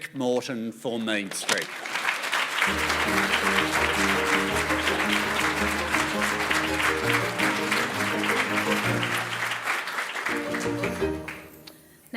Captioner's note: applause